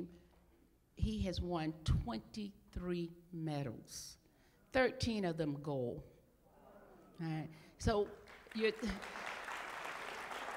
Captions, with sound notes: he has won 23 medals, 13 of them gold. >> Wow. >> So [applause].